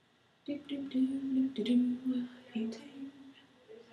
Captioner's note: humming